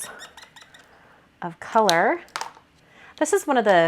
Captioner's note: pen squeaks